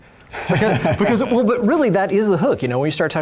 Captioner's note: laughs